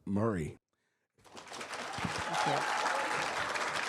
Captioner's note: attendees applauding and cheering